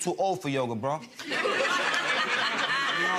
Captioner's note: audience laughs